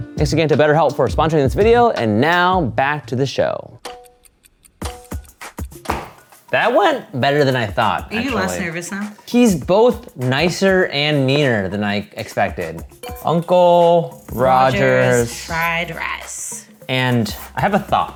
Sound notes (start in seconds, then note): 3.8 timer dinging; 3.8 upbeat funky music